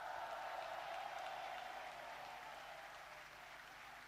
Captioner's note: applause